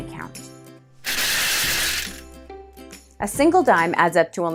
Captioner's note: coins clinking